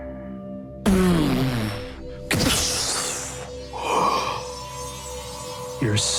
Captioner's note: electrifying music; whooshing